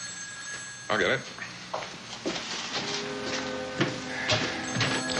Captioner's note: phone rings